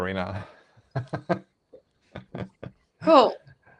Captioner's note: laughs